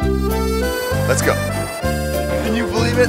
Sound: joyous music; voiceover

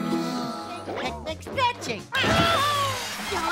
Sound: screaming

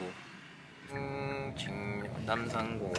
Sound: humming

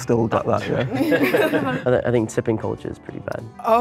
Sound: laughing

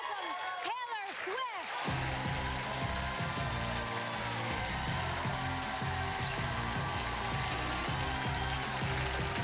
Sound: cheering and applause

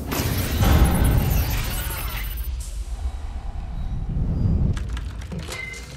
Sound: low thudding; readout sliding and beeping; keyboards clicking

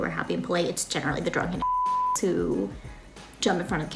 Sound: beep

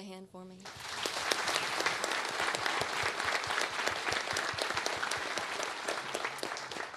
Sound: applause

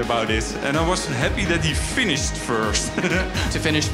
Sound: laughing

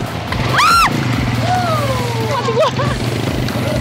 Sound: shout

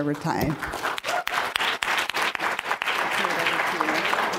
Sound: applause

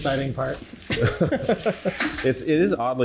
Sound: both chuckling

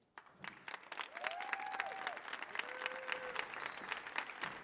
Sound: audience cheers

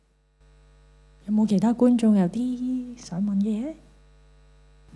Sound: Cantonese

